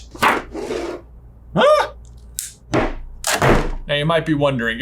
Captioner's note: yells